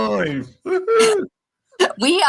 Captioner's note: laughter